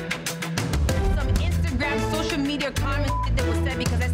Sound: beep

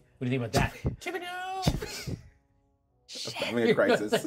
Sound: speaker chuckles

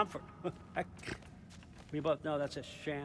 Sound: laugh

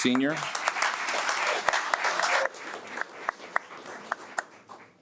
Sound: audience applauds

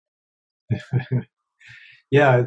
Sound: chuckles

